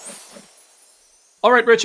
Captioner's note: whoosh